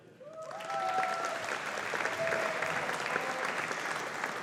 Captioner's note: audience applauding